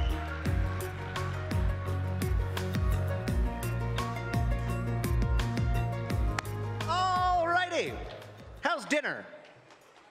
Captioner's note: applause